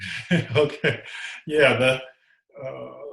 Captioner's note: laughing